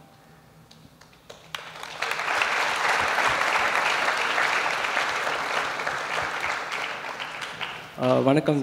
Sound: applause

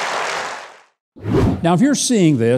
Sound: audience applauding; wind whooshing

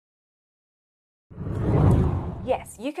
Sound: screen whooshing

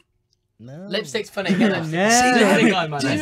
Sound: mockingly

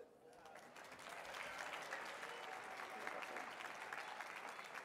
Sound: audience clapping

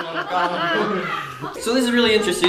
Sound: laughing

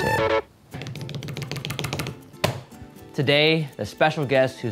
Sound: table drumming

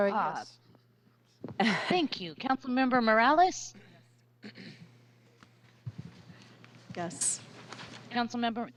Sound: laughter

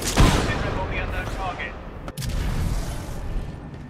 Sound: radio

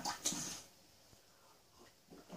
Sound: glug, glug, glug

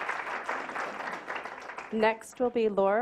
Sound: clapping

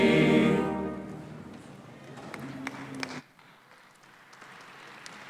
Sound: applause

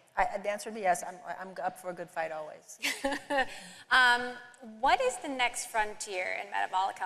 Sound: laughter

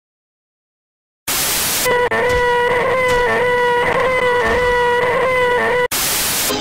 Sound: scream

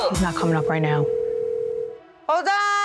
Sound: phone ringing

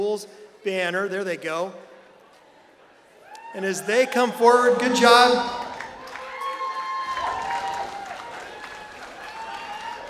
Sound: applause

